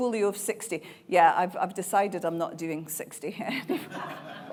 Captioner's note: laughing